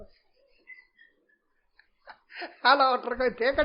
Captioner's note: laughter